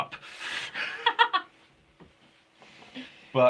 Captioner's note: laughing